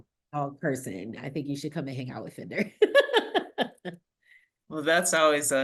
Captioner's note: laughs